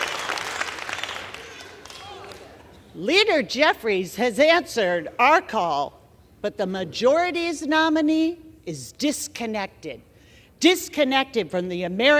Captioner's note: applause